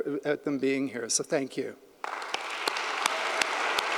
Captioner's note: audience applauding; claps